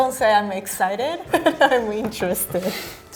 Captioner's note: laughing